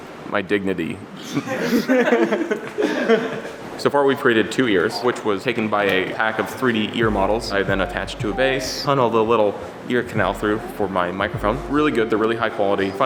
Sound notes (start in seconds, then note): 1.1 laughing